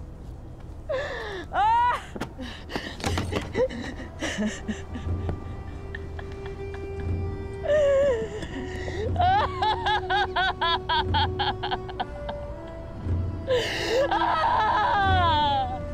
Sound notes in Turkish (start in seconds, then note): 2.7 Ağlama sesleri